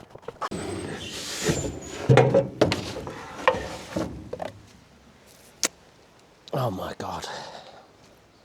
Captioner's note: birds chirping